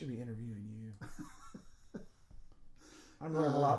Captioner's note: laughing